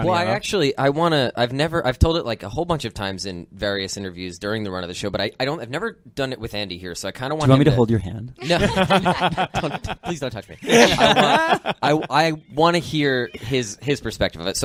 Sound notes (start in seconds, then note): 10.6 laughter; 10.6 laughing